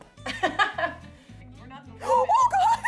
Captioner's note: laughs